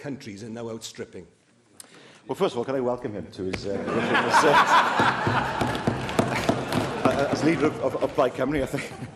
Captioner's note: laughter